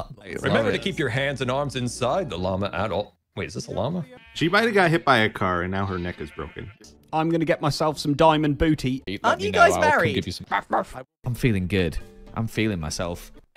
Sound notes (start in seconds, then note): 10.4 barks